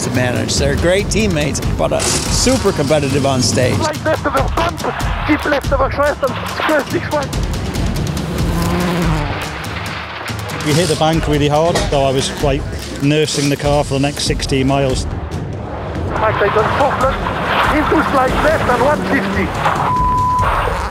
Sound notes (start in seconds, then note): 7.9 engine roaring; 15.9 car tires screeching; 20.7 engine whines